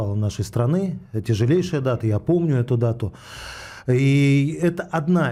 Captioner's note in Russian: вздыхает; тяжело вздыхает